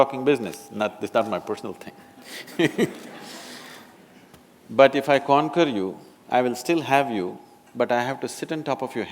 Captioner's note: laughter